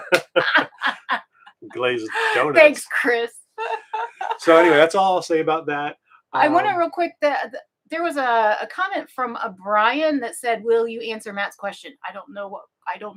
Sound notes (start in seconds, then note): 0.0 both laughing; 3.6 laughing